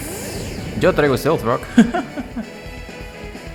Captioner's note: laughs in Spanish